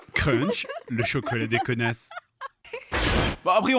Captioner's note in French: voix douce